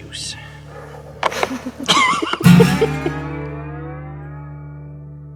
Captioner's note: giggle like morons